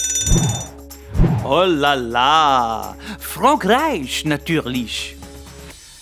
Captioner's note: French accent